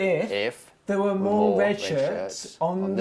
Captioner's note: echoing